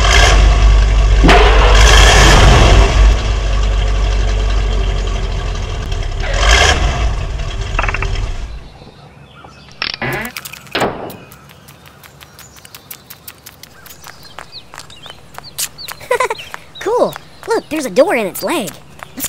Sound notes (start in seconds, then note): 0.0 engine revs; 1.2 slam; 6.1 click; 6.1 engine stops; 9.8 door open and shuts